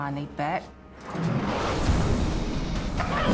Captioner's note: grunts